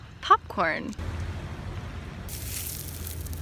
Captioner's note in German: Ein bisschen ASMR aus der Natur